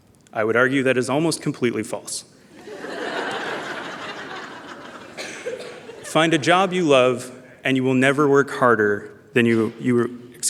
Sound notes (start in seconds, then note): 2.5 laughter